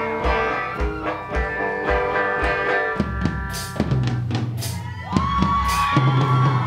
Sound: cheering

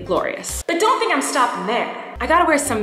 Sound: echo effect

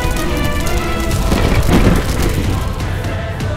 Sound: thunder rocks the valley

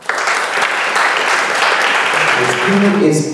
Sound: audience applause

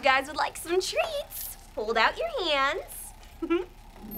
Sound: chuckles

